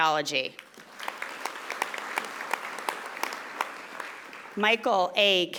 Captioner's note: audience applauding